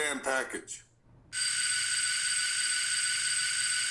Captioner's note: doorbell rings